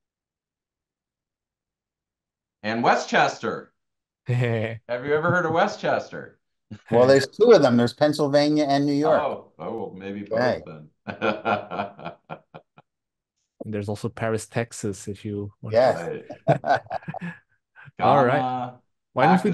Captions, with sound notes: Nigeria. And Westchester. Have you ever heard of Westchester? - Well, there's two of them. There's Pennsylvania and New York. - Oh, well, maybe both then. (laughs) - And there's also Paris, Texas if you wanna...